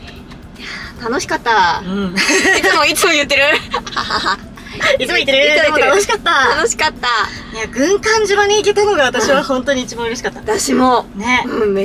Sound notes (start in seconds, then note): 1.4 laughs; 1.8 laughing loudly